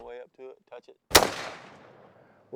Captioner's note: gunshot